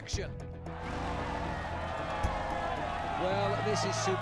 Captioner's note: cheering